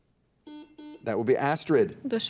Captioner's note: buzzer dings